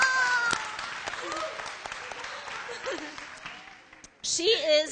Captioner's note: applause